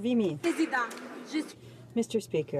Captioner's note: some Applause